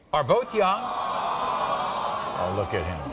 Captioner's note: audience awes